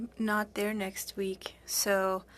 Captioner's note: speaking FRENCH